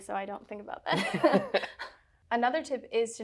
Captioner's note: both laughing